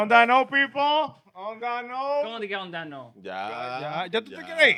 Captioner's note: speaking In Foreign Language